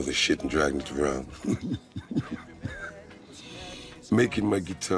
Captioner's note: chuckles